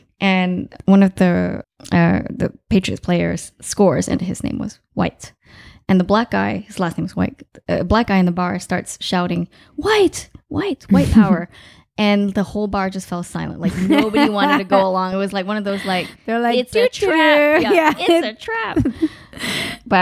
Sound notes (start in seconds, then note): 10.9 giggling; 13.6 laughing; 16.8 laughing